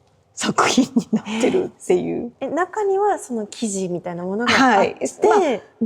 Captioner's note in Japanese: 笑い